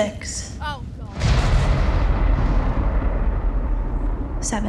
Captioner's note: thunder crashes